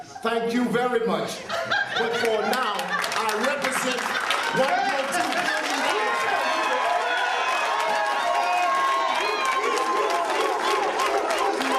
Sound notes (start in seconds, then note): 5.6 crowd cheering